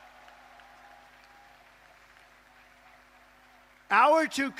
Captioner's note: applause